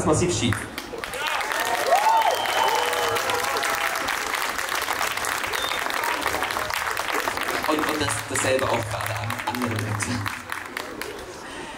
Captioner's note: applause